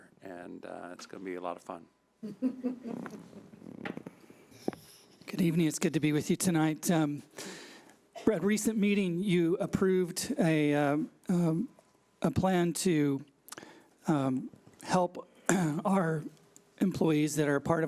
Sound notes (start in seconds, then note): 2.3 panel members laughing